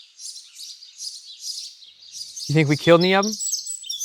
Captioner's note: birds chirp